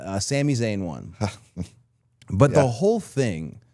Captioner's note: Chad laughs